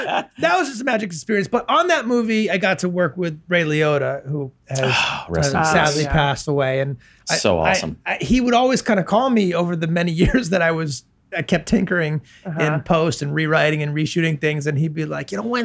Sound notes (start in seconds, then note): 4.7 sighs